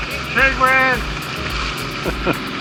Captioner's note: yells